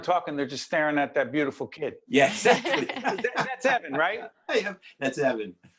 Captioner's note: laughing